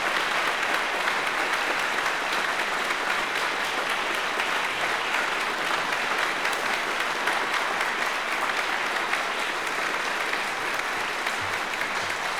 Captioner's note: applause